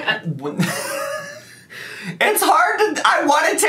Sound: laughing

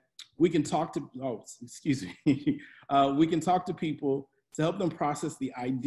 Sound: laughs

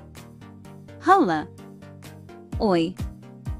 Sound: Ukrainian; Spanish

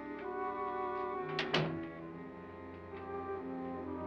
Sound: door closes; ominous music

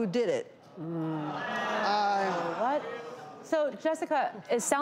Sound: audience groans

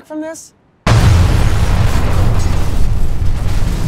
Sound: explosion

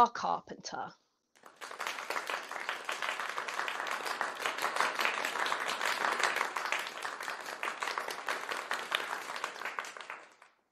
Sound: applause

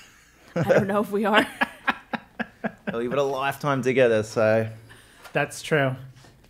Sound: laugh

